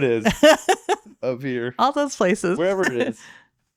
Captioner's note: laughing